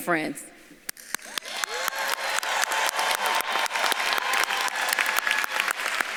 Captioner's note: audience claps and cheers